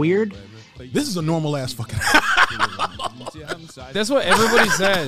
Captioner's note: laughing